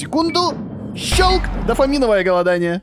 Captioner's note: bang